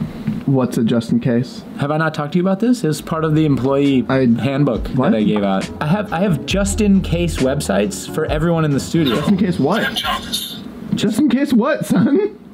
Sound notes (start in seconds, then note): 10.1 Robotic voice